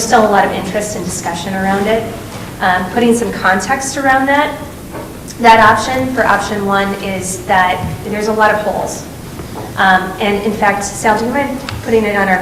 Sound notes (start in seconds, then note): none